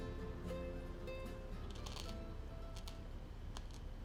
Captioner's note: crunching